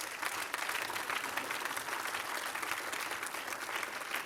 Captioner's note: applause